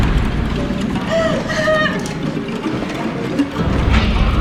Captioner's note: Mindy wailing